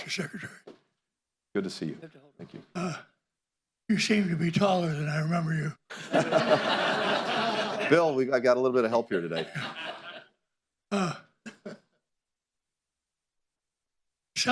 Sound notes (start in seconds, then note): 5.9 laughter